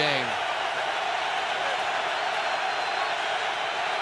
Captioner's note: cheering